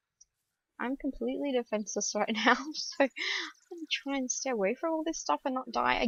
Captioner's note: laughs